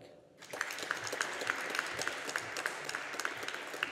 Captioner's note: audience applauding